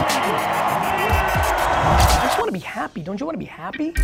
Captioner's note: crowd cheering